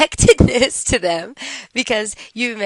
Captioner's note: laughter